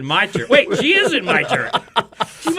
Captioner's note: men laugh